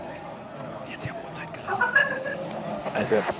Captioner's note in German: flüsternd